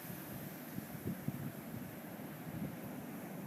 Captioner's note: waves crashing